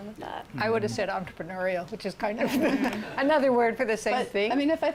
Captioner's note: laughter